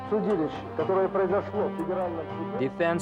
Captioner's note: speaking foreign language